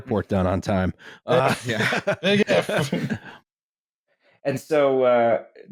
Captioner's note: laughter